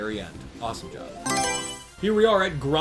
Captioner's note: Mario Selection Sound